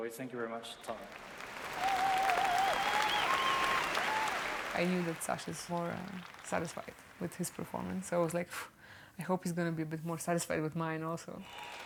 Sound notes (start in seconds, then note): 1.0 cheering; 2.3 applause